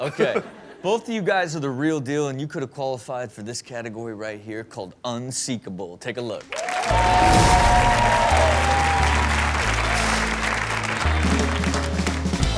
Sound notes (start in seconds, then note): 6.5 crowd applaud and cheer; 10.7 upbeat music